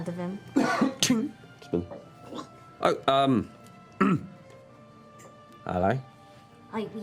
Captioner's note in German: Metallklirren